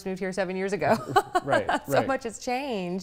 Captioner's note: laughing